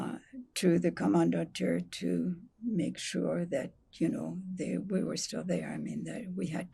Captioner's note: german